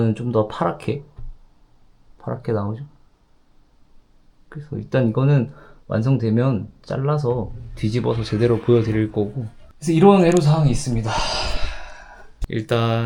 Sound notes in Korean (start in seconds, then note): 10.7 한숨